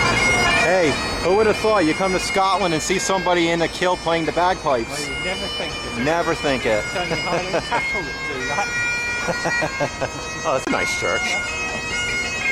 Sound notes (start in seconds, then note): 9.0 laughing